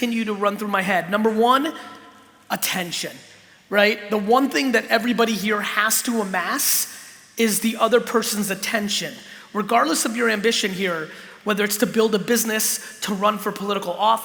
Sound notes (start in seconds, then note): none